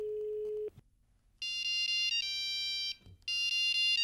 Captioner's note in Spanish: Comienza a sonar el celular de Cindy